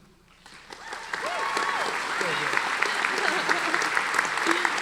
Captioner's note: audience applauding